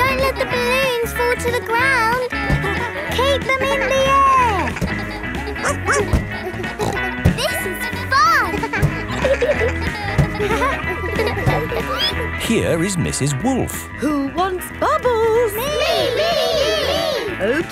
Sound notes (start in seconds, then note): 5.6 barks; 7.1 snorts